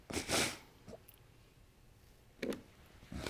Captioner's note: sniffling